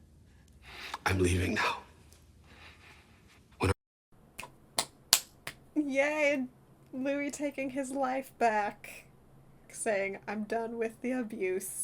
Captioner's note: claps